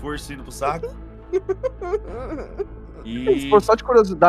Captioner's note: desperate laughter